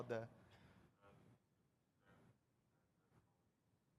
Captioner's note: off microphone